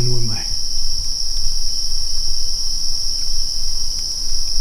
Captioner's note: insects buzzing